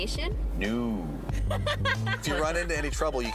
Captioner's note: laughing